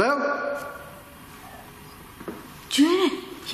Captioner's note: grumbling whisper